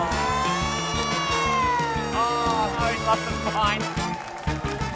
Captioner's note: all groan in disgust